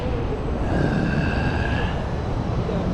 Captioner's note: disgruntled sigh